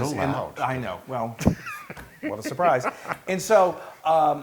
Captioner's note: laugh